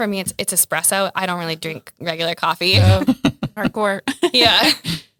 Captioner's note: laughs